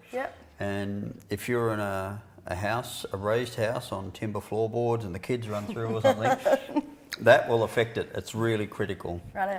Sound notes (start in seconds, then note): 5.5 laughter